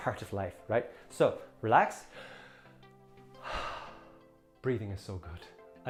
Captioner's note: breathes heavily